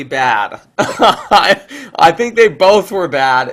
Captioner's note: laughs